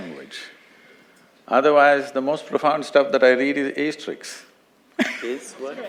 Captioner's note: laughs